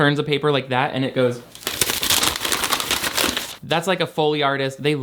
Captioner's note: paper rustling